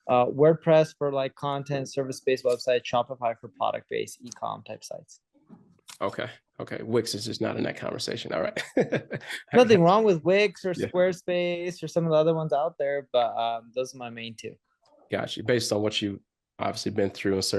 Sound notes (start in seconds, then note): 8.4 chuckles